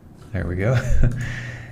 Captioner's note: laughs